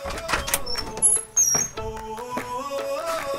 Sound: door open

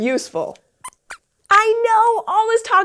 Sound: squeaks squeaks

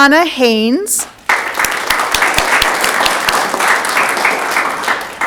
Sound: audience clapping

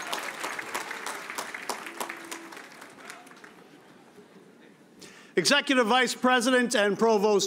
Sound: cheers and applause

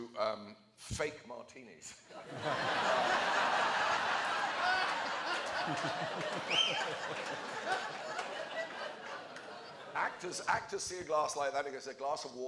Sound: laughter

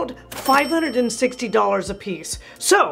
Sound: bell rings

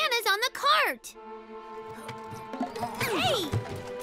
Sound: effort grunts

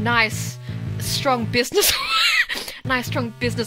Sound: wheezing

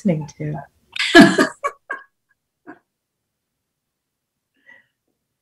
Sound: laughs

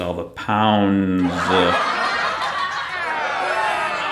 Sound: laugh track

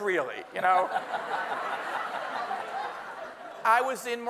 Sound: everyone laughing

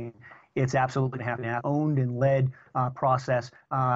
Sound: audio corruption

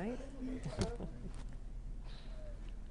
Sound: laughter

